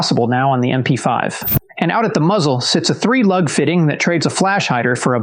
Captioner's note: whoosh